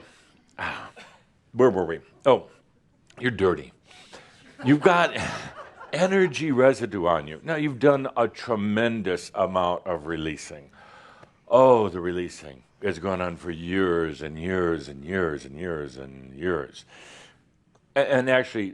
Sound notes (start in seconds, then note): 4.4 more giggles